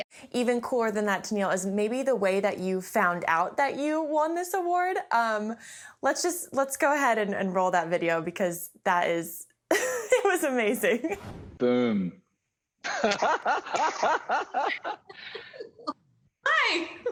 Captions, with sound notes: Even cooler than that, Tenille, is maybe the way that you found out that you won this award. Let's just go ahead and roll that video, because that is (LAUGHING) amazing. Boom. [GASPING] [LAUGHTER] Hi!